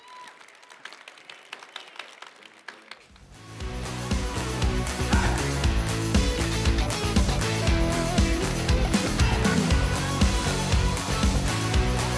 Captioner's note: applause